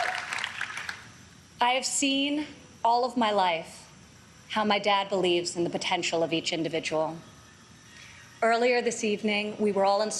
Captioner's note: applause